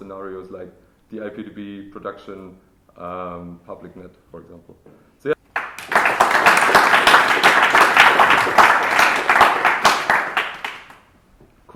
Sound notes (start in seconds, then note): 5.5 applause